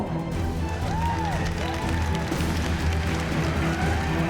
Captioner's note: cheers and applause